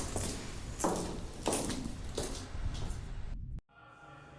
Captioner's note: footsteps tapping; voices echoing faintly